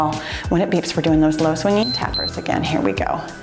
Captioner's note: timer beeps